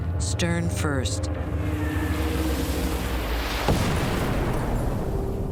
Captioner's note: yelling